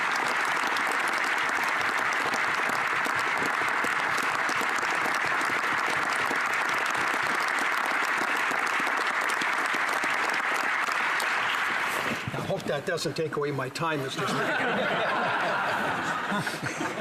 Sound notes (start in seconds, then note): 0.0 applause